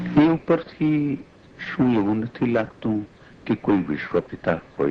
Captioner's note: speaking foreign language